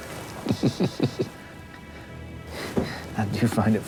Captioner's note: chuckles